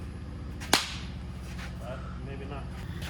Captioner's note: tennis ball bouncing